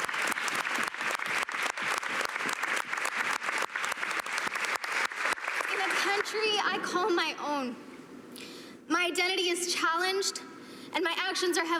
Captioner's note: cheers and Applause